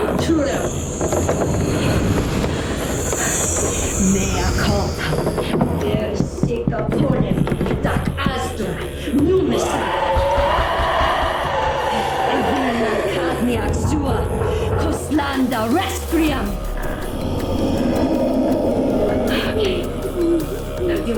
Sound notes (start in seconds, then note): 0.3 house rattling; 4.2 chanting in foreign language; 9.6 something screaming; 12.4 chanting in foreign language